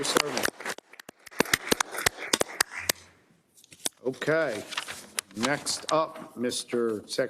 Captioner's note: applause